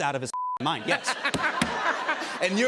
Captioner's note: laughter